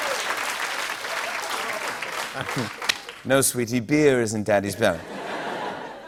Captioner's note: applause; British accent